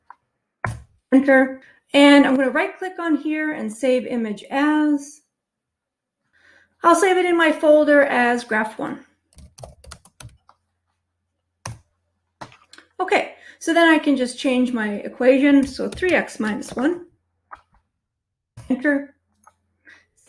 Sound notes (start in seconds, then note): 9.3 keyboard clicking